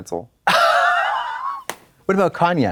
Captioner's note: Katya swishes and slaps